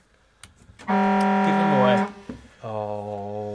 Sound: horn blares

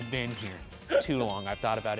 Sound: camera clicking

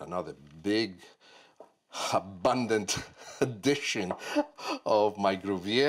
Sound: laughs

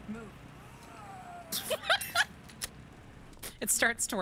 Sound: laugh

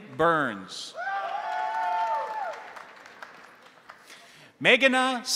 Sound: crowd cheering; crowd applauding

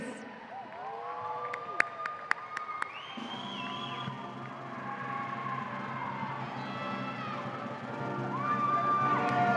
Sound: cheering

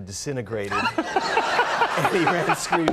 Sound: Conan and audience laughing

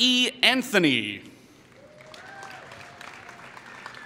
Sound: applause

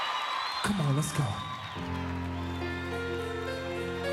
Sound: cheers

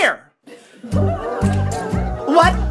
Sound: laughter

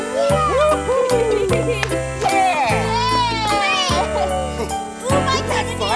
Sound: clap clap

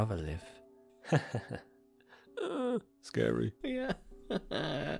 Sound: chuckling

